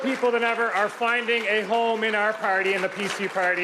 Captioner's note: applause